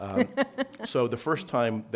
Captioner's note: laughing